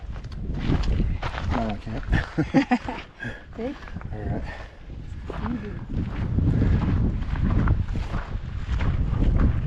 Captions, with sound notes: Now, I can't. (laughing) See? All right. I'm good.